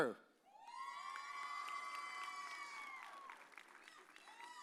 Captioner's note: audience cheers